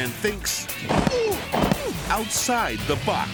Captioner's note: groans